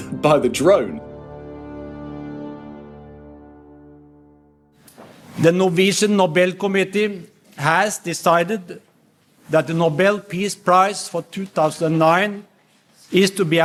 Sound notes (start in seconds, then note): 1.2 soundbite of archived recording